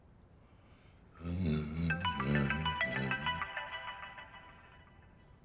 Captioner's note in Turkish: Telefon Çalıyor